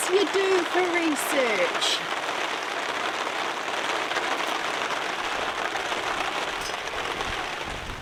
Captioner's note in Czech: déšť